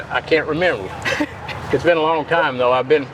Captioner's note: chuckles